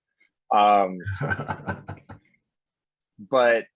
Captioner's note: laughs